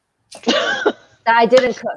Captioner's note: laughing